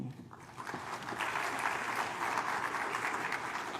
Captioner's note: applause